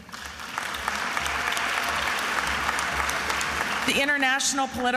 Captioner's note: attendees applauding